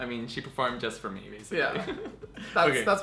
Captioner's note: giggles